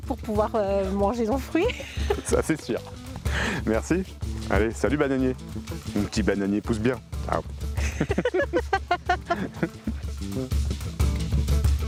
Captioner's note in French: rires